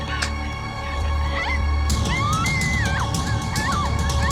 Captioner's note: marla screaming